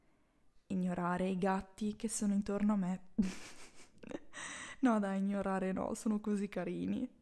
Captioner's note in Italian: risata